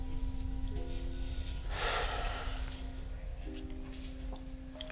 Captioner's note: Joe sighing heavily